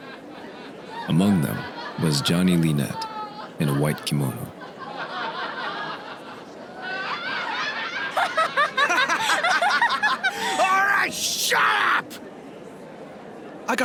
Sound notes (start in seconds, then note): 4.5 laughter